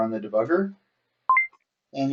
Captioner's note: beep Sound